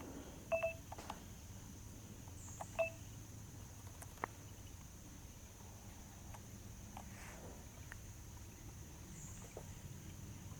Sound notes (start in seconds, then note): 0.4 equipment beeps; 4.7 birds and bugs chirping